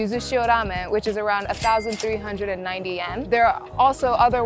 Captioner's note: chime ringing